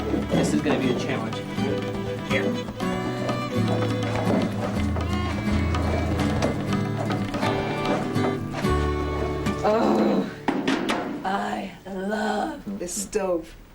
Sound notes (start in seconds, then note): 9.6 growls with pleasure